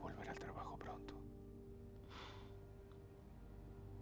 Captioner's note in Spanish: suspiro